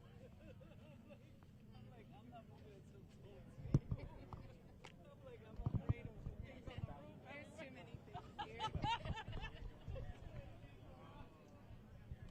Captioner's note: indistinct conversation